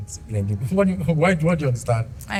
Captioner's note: laughs